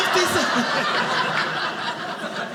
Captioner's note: audience laughing